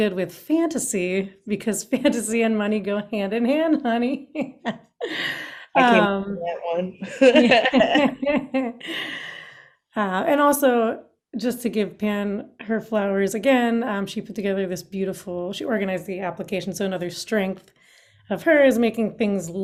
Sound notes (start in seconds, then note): 7.0 laughs